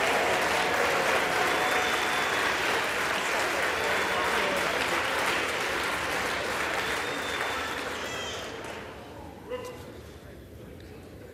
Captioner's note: applause